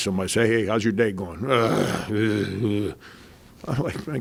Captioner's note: groans